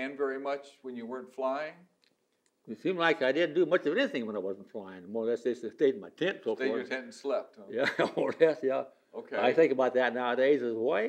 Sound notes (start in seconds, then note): 7.8 laughs